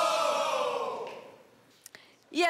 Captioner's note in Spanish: Exclamaciones